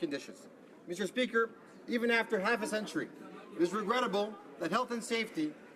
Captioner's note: speaking French